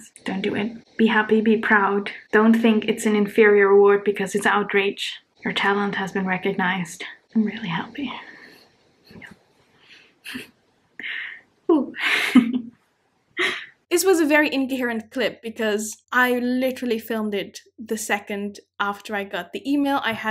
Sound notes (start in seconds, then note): 10.2 chuckling